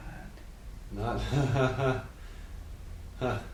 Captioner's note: laughs softly